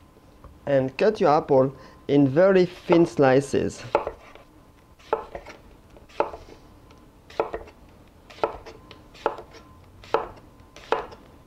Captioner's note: cutting sounds